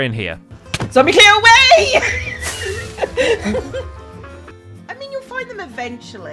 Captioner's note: smack; laughs